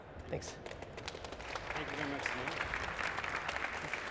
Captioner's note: applause